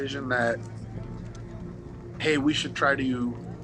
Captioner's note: troops chatter